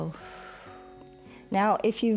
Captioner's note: exhales